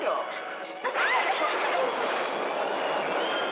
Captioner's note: thunderclap